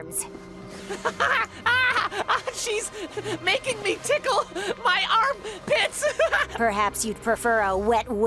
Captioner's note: laughs